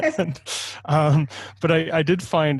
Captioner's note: laughing